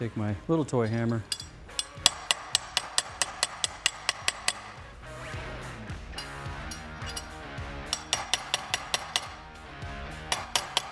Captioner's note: hammering